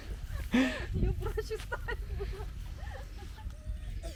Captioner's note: laughter